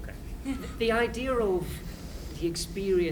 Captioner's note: laughter